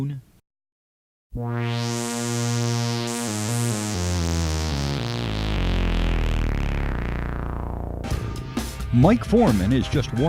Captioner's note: sound Effects